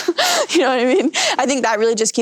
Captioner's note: laughs